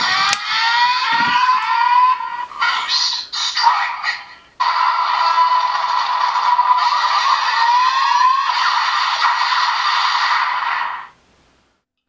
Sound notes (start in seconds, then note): 4.6 attack sound